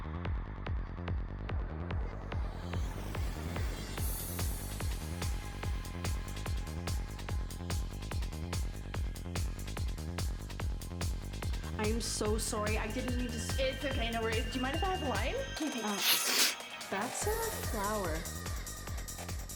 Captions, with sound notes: I am so sorry, I didn't mean to spill -- It's okay no worries, do you mind if I have a line -- Okay thanks! *Loud Snort* That's uh flour... *Loud Snort* That's uh flour...